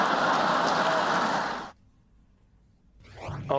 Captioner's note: laughter